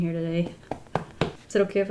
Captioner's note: thump, thump, thump